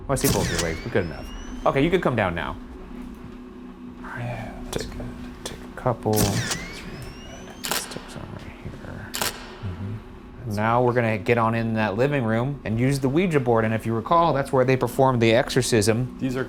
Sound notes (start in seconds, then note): 9.1 camera shuttering